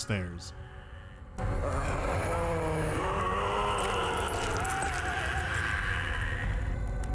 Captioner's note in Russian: раздаются потусторонние стоны